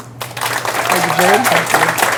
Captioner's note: applause